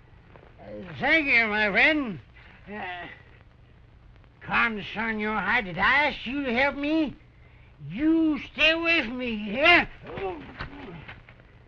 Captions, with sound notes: (SLURRING) Thank you, my friend. [muttering] did I ask you to help me? You stay away from me, you hear?